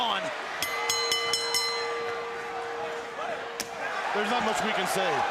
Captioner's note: bell ringing